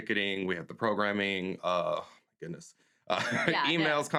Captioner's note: laughs